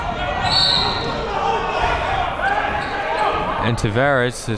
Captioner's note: whistle blaring